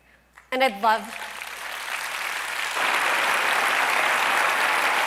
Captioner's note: applause